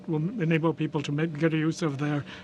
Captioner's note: speaking French